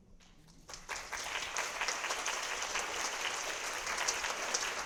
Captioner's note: audience applauding